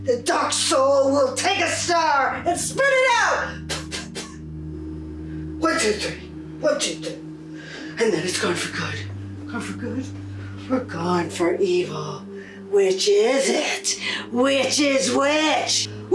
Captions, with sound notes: The dark soul will take a star and spit it out! (spits) One, two, three. One, two, three. And then it's gone for good. Gone for good, or gone for evil. Which is it? Which is which?